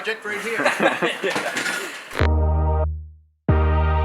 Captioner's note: laughing